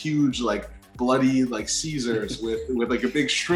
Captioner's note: chuckles